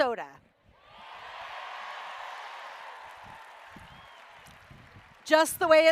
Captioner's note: cheering